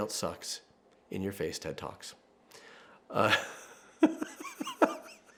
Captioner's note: laughing